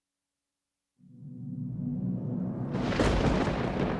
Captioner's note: thunder crashing